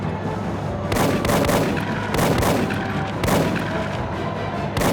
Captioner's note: tank rattling; tank machine gun booming